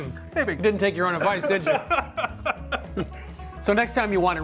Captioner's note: laughing